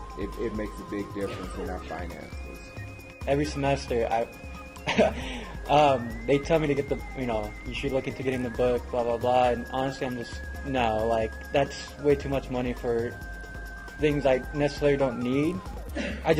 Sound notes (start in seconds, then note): 4.6 laugh